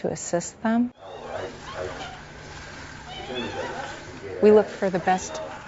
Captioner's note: walker squeaking